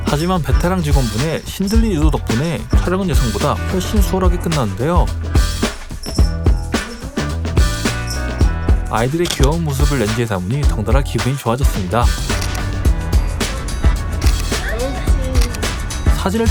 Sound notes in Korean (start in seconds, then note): 12.4 찰칵; 14.2 찰칵